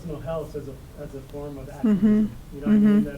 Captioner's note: voice muffled